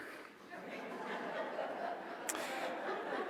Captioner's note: laughing